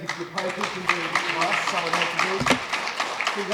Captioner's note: applause